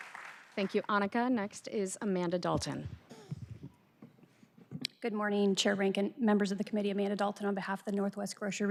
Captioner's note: applause